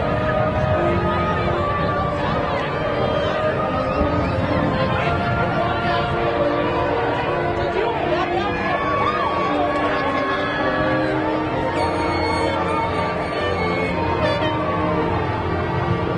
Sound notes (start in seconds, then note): 0.2 school orchestral music continues; 6.0 crowd chattering